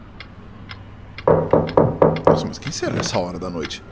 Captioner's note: knocking on the door violently